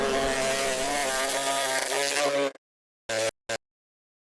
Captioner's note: bees humming; bee buzzing